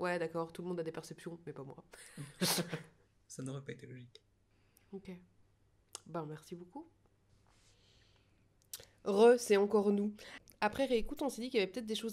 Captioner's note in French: rires